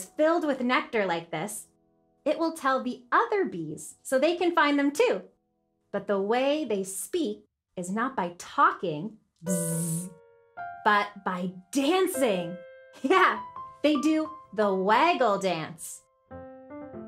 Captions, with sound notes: filled with nectar like this, it will tell the other bees so they can find them, too. But the way they speak is not by talking, (buzzes) but by dancing. Yeah, they do the waggle dance.